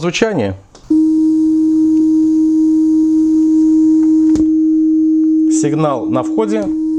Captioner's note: oscillator signal